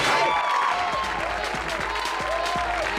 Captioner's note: audience applause and hoots